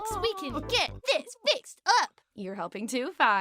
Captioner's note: none